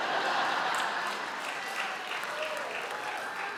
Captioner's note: audience laughs